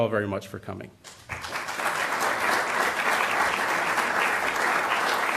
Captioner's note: applause